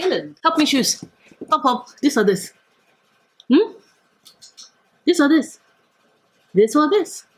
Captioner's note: clicks tongue